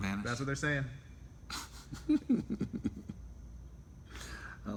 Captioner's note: laughter